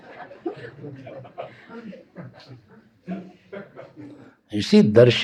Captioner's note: laughter